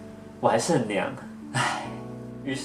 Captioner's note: sigh